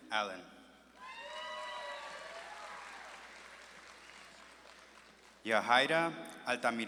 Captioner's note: audience claps and cheers